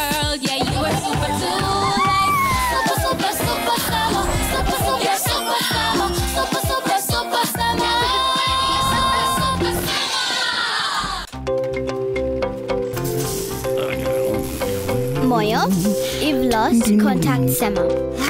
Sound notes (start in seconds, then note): 14.1 tool buzzing